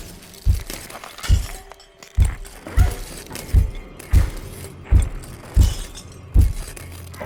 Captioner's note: intense music; glass crunching